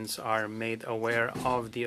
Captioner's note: speaking French